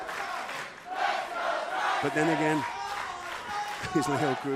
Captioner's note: crowd cheering